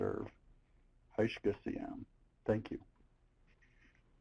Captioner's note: speaking Native language